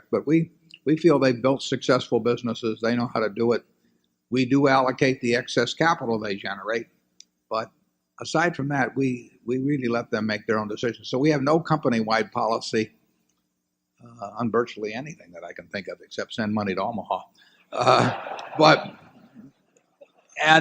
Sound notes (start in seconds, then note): 17.8 laughter